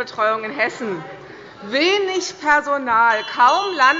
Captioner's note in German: Unruhe - Glockenzeichen des Präsidenten